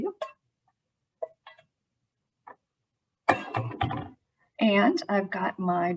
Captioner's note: dishes clanging